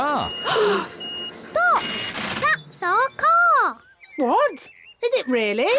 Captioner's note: all gasp